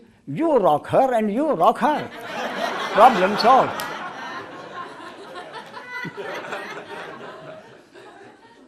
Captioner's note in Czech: smích